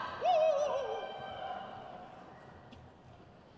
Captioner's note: crowd cheers